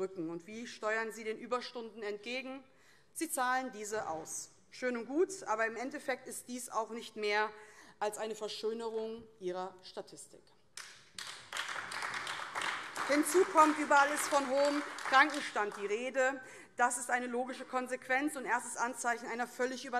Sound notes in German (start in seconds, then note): 10.8 Beifall AfD